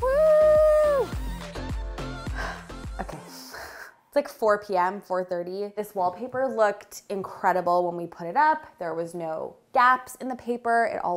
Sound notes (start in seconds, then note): 2.2 exhaling